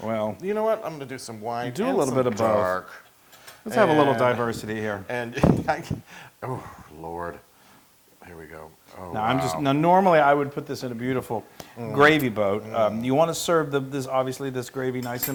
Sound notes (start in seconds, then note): 5.3 laugh